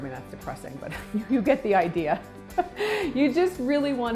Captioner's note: chuckles